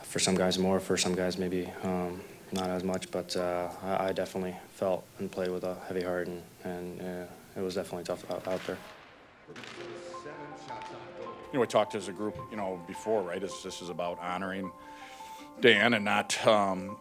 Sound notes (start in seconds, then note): 8.1 sticks smacking